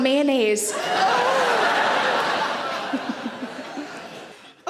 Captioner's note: audience laughs